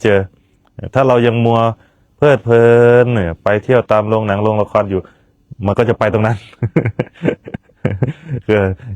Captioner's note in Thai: เสียงหัวเราะ